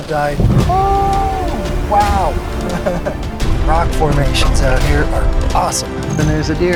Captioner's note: laugh